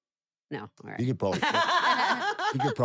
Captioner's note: laugh